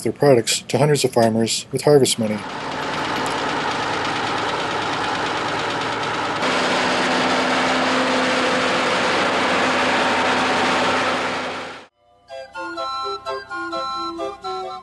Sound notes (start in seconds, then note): 4.5 tractor engines running